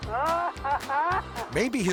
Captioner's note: driver laughing